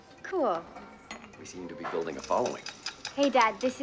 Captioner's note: coins jingling